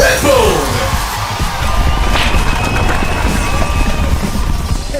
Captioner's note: crowd goes bonkers